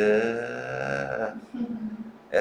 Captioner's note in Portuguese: risos